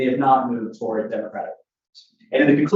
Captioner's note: faintly speaking